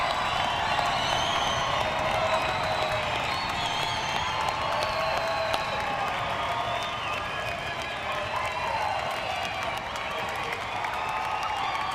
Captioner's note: cheering and applause